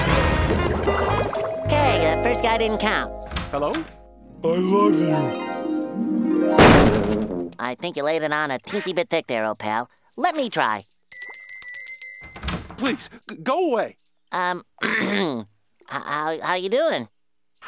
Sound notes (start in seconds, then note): 0.0 upbeat music; 1.3 doorbell ringing; 5.3 romantic classical music; 11.1 bell ringing; 14.8 clearing throat